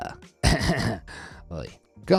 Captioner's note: narrator chuckling